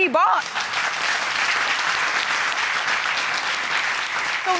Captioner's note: applause